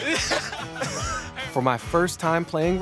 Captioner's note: all laughing